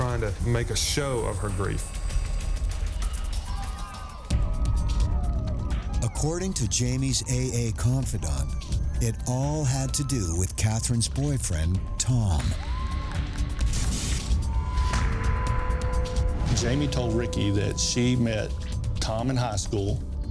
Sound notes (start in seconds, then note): 3.9 crowd cheering